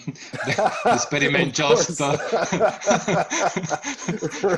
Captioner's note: chuckles